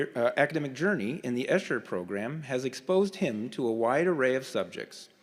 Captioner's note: none